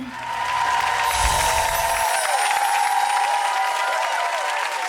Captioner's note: audience applauding